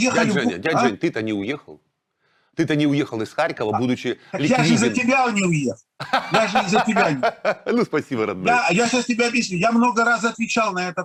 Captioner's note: both laughing